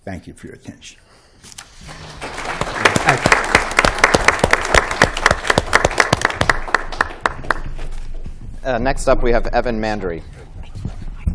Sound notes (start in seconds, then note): 1.8 applause